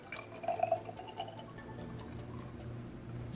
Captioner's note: pours liquid